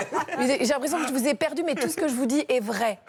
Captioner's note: laughter